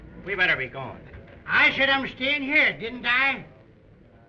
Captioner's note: slurring